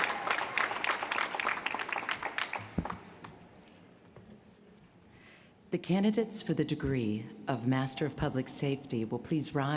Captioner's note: applause